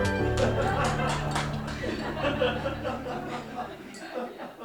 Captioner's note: audience laughing